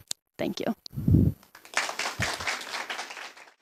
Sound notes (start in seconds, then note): 1.5 applause